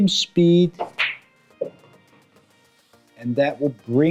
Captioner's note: ball smacks